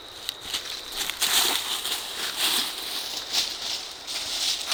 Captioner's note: walking, rustling